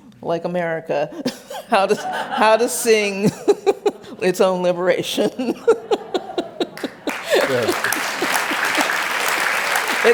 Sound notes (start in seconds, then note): 3.2 laughs; 6.7 applause